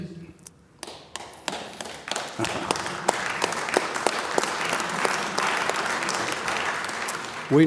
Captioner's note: applause